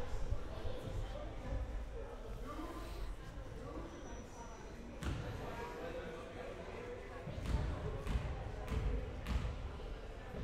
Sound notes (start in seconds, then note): none